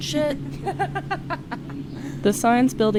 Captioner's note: person laughs